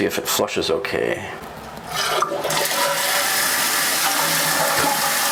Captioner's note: toilet flushes